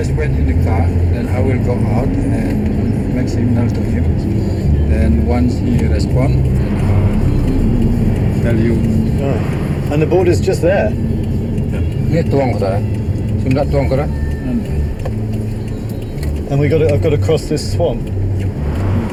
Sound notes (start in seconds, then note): 12.6 driver speaking in foreign language